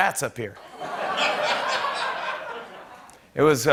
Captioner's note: laughter